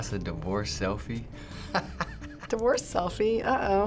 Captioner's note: laughing